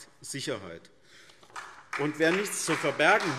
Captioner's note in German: Beifall SPD